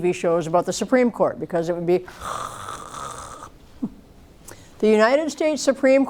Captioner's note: snores